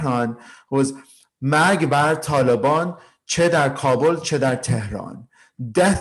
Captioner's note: speaking in foreign language